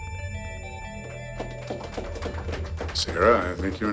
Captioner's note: applause